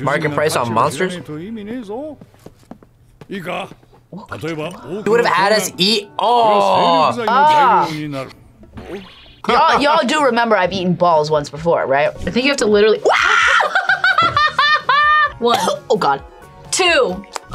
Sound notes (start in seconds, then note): 13.0 screams; 13.1 laughs; 15.0 coughs